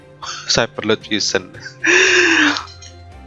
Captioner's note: dying laughing